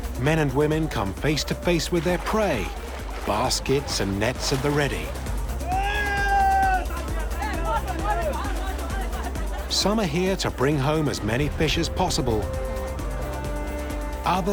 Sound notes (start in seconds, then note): 5.6 man shouts triumphantly